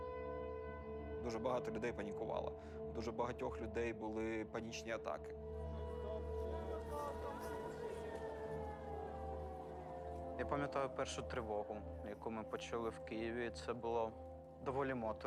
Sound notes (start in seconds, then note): 5.3 siren blaring